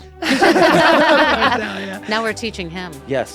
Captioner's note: laughter